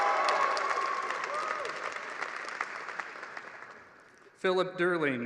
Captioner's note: applause